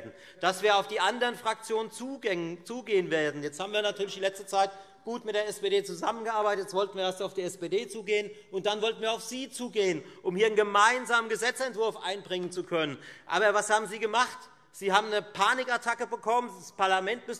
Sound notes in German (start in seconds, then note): none